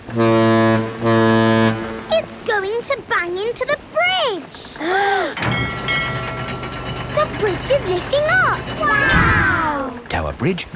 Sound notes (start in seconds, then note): 0.0 ship horn blowing; 4.7 kids gasping; 5.4 bell dinging